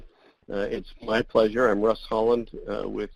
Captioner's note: voiceover